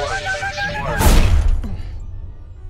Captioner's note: spaceship thuds